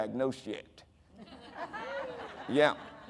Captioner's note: audience laughing